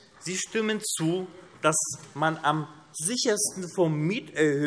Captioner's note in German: none